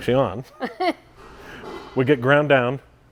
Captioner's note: laughing